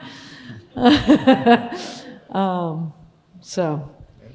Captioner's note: laughs